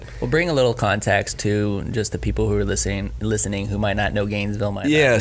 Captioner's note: none